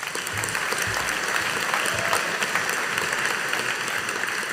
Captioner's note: audience applauding